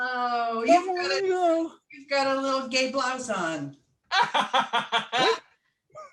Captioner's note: laughter